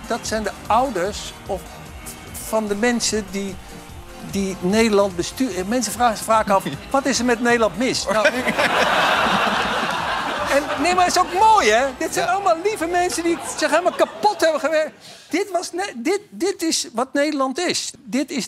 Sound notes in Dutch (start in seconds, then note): 8.0 gelach